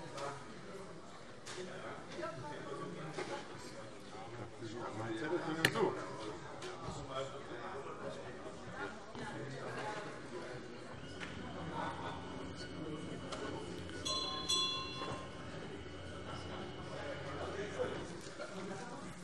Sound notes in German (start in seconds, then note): 14.0 Unruhe - Glockenzeichen